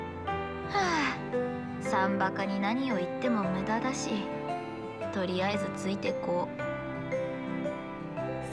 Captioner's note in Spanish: suspiro